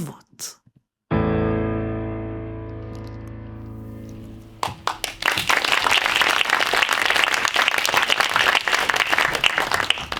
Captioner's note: audience applauding